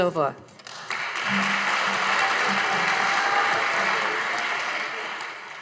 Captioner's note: audience applauding